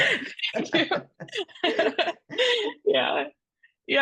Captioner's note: laughs